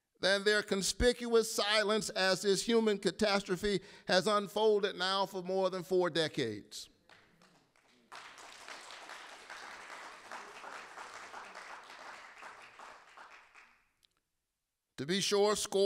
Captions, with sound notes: than their conspicuous silence as this human catastrophe has unfolded now for more than four decades. (audience applauding) To be sure,